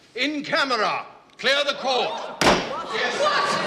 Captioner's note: crowd gasps